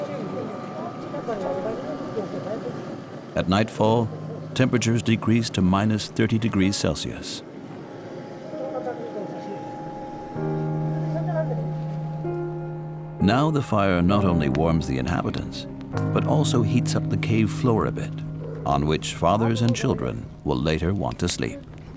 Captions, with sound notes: (speaking foreign language) At nightfall temperatures decreased to minus 30 degrees celsius. (speaking foreign language) Now the fire not only warms the inhabitants but also heats up the cave floor a bit, on which fathers and children will later want to sleep.